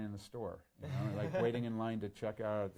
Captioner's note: laughs